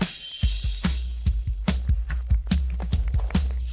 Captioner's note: audience applauding